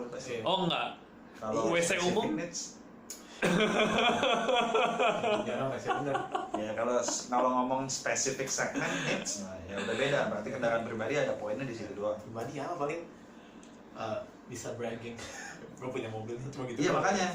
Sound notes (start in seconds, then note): 3.4 smacking out of annoyance; 3.5 laughing hysterically; 14.8 chuckle